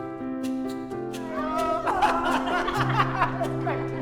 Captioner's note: laughing